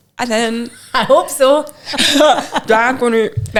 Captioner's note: laughing